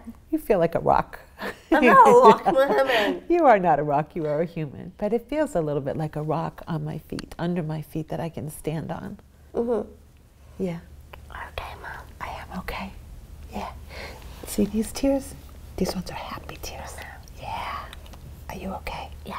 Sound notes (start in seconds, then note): 1.7 laughs; 11.5 whispers